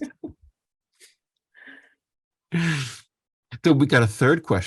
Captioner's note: laugh